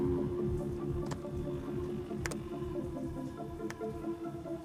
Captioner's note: ominous music continues; keys click